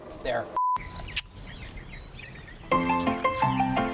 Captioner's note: clicks tongue